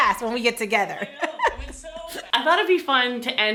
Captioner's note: laughs